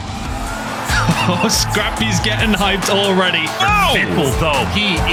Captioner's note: rocking hip-hop beat; caster chuckles